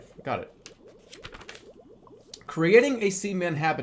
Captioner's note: flips page